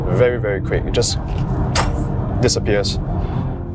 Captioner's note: poof